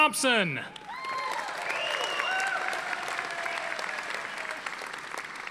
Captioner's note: audience applauding